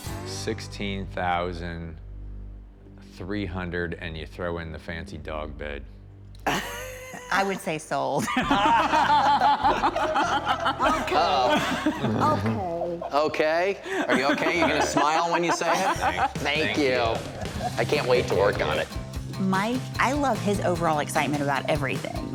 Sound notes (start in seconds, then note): 6.4 laughs; 8.2 laughter